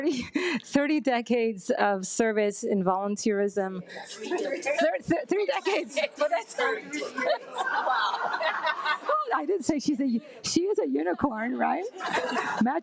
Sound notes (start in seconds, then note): 6.3 attendees laugh and chatter